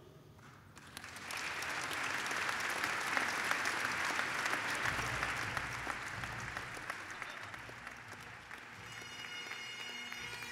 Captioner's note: applause